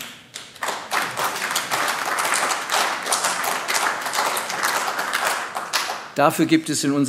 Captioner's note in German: Beifall AfD